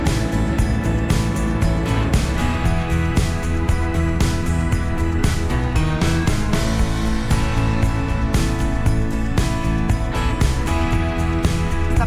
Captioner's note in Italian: Applauso